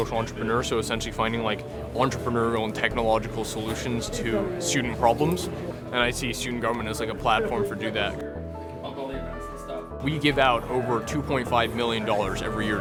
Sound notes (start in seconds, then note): 8.9 group chatters